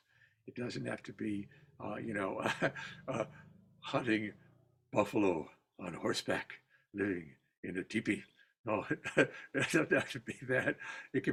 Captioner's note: laughter